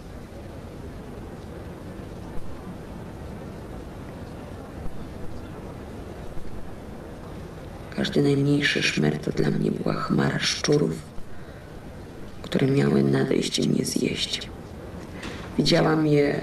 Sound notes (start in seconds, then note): 7.7 speaking polish